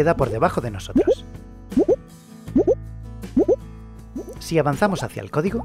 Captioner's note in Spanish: Sonido código por debajo de nosotros